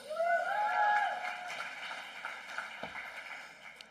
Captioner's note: applause